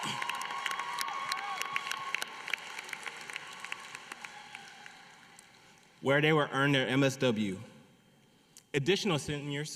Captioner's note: applause